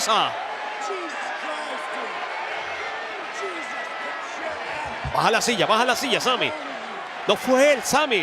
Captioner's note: applause